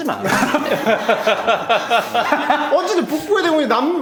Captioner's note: laughs